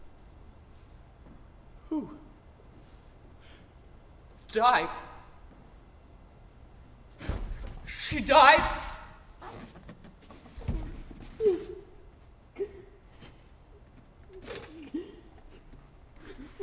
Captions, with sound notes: Who ... Died? She died? [Sobbing.]